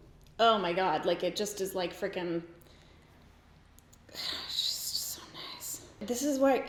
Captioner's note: sighs